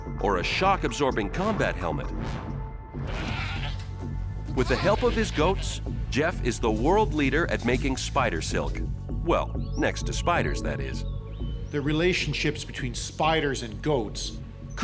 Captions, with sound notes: or a shock absorbing combat helmet. [goats bleating] With the help of his goats, Jeff is the world leader at making spider silk. Well, next to spiders, that is, - The relationships between spiders and goats